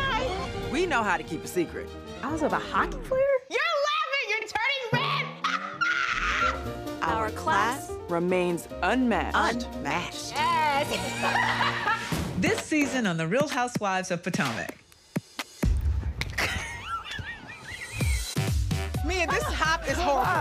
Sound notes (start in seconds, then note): 16.3 snickering